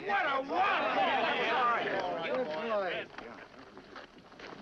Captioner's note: men chatter excitedly